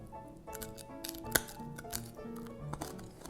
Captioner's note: crunch